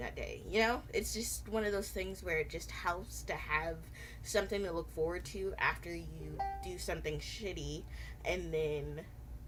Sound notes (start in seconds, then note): 6.4 computer dings